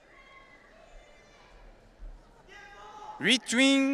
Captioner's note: audience cheering